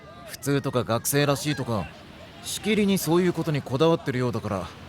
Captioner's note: none